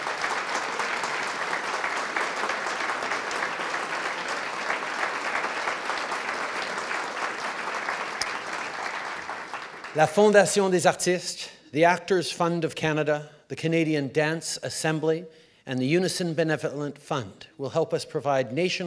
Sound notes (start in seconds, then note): 0.0 applause